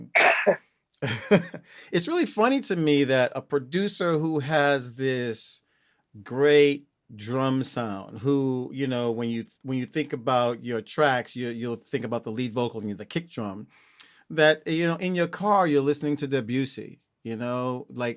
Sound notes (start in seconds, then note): 1.0 laughter